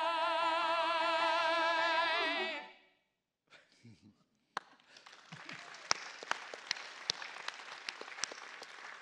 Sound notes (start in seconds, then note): 4.6 chuckles and applause